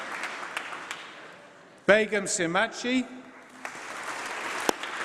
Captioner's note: applause